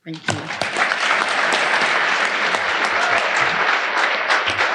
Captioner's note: audience applauding